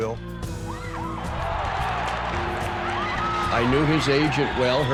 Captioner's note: crowd cheering